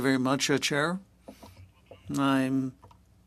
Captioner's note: speaking French